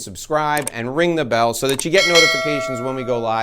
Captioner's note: bell rings